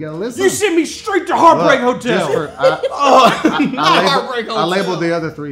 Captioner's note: laughing